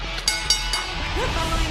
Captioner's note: bell ringing